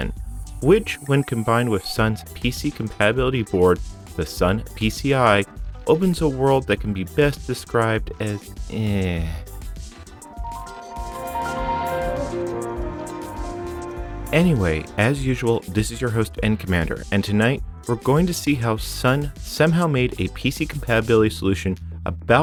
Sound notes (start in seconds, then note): 10.3 Windows 2000 Startup Sound